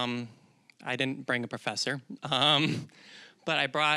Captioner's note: chuckling